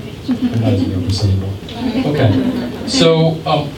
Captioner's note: scattered chuckles